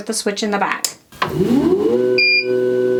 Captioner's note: machine whirring; machine beeps